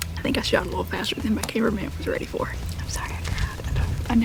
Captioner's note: whispering